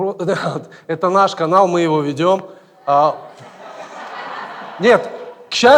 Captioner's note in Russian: смех в зале